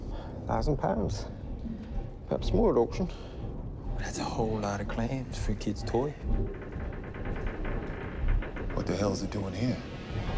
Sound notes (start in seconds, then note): 6.5 boat chugging; 6.5 ship creaking